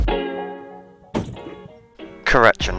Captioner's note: narrowboat crash sound